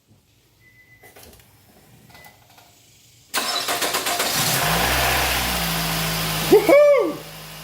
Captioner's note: engine cranks & starts